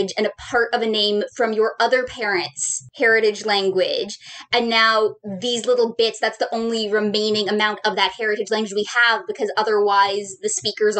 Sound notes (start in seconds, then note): none